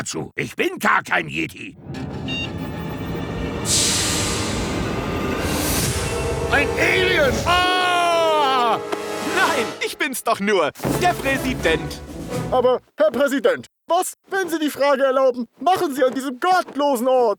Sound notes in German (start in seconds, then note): 1.8 Dramatische Musik; 2.2 Knopf piept